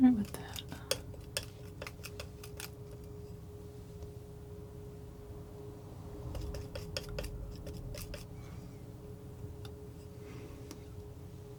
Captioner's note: scraping